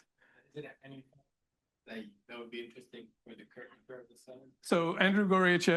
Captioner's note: student speaking faintly